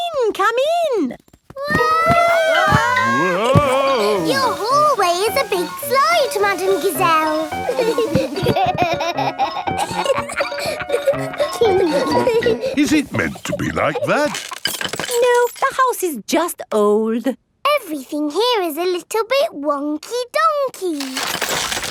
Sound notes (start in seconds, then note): 2.0 all yelling; 8.5 giggling